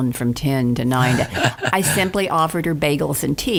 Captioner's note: laughing